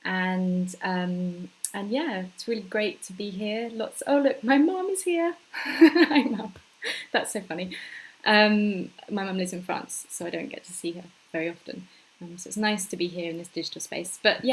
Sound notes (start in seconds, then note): 5.6 laughs